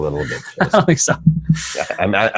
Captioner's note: laughing